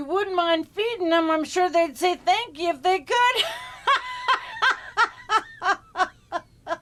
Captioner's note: laughs